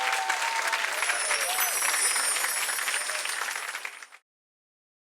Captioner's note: bells chiming